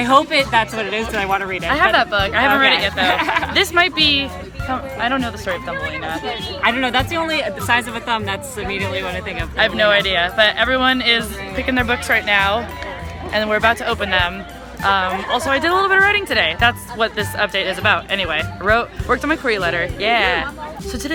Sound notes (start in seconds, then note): 2.4 laughs